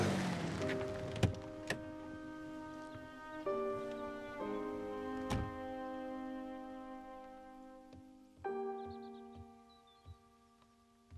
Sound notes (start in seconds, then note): 0.0 engine rumbling; 0.0 playful music; 1.4 birds chirping; 1.4 gentle music